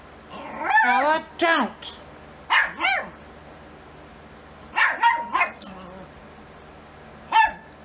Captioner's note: Ella continues to bark and growl